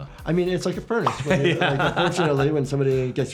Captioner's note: laughs